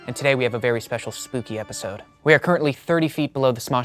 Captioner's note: none